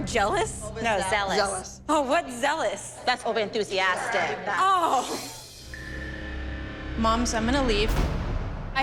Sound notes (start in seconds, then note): 4.4 laughs